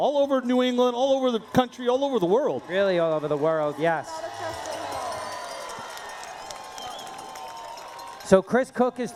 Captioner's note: cheering